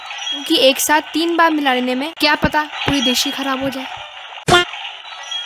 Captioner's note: being sarcastic